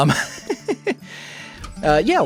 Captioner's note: short Laugh